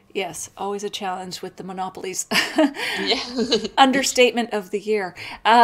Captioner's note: laughs